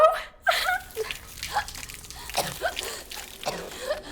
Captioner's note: Eve coughs